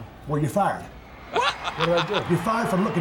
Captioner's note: laughs